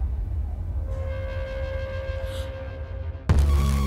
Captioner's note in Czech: zalapá po dechu